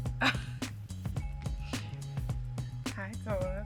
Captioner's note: laughs